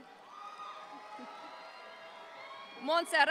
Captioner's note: audience applauds